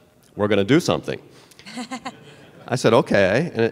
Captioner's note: laughter